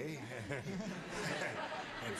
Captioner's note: laughs